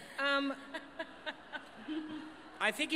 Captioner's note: laughter